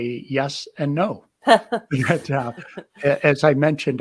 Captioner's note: laughs